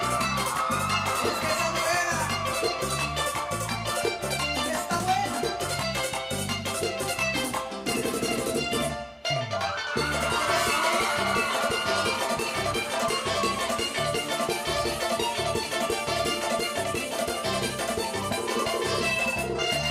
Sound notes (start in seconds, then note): 0.0 audience cheering; 9.7 audience cheering